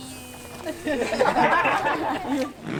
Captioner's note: laughter